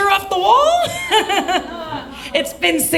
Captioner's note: laughs